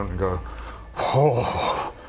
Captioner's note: uncomposed sigh